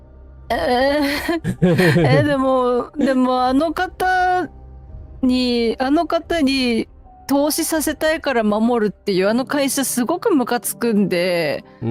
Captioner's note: laughter